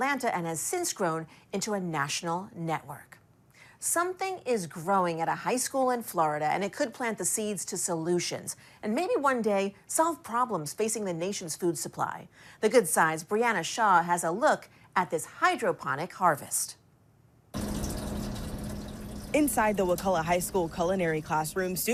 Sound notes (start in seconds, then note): 17.5 water trickling